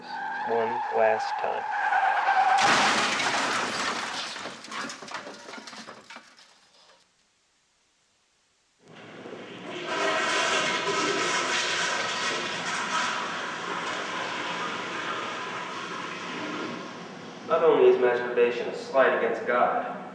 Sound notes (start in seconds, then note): 1.7 car skids and crashes; 10.9 toilet flushing